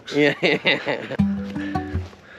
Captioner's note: laughs; upbeat music